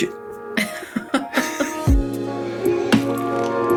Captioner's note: laughing; bright music